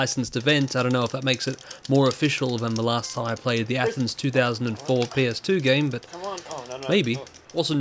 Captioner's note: tapping button frantically